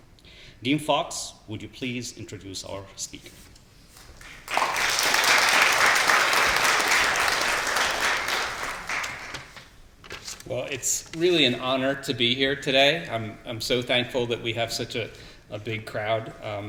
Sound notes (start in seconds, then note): 4.0 applause